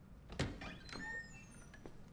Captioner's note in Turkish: Kapı gıcırdama sesi